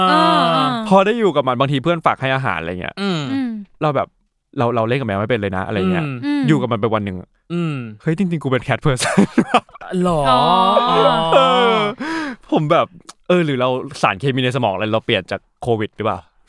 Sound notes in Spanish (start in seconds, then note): 12.1 risas